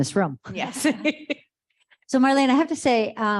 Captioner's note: laughs